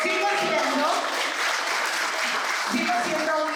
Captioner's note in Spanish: aplauso